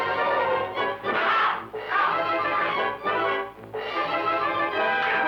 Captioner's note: Commandante shouting